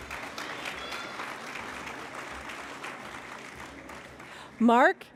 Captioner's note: applause